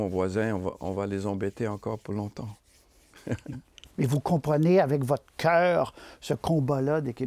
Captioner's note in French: petit rire